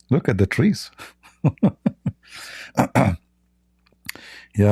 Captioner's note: Ketawa